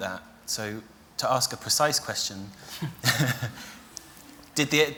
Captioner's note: he laughs